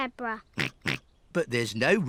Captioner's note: snorts